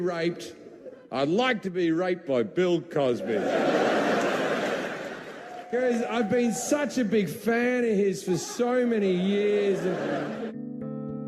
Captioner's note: crowd laughts; contemplative music